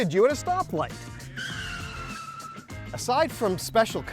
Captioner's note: car screeching